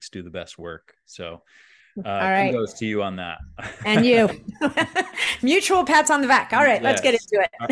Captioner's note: chuckles